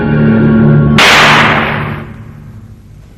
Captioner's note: sound of a gunshot